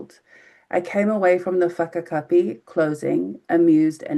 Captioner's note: speaking in foreign language